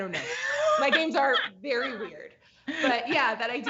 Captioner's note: laughs